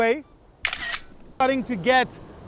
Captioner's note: camera snaps